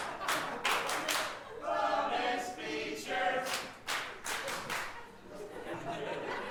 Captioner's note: clapping; clapping; laughing